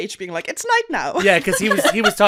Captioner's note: laughter